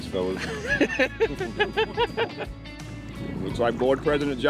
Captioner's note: laughing